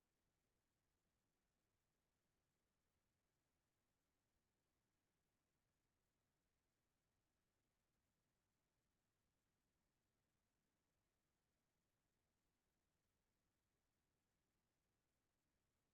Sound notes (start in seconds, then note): none